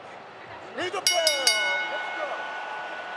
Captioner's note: bell rings